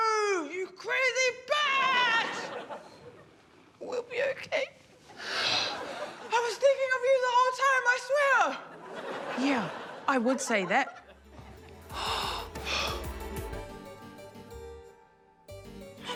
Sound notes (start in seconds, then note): 5.1 exhales; 11.8 gasps, sighs; 13.9 suspenseful music